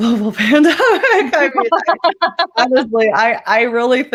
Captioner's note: laughter